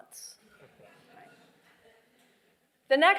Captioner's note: laughter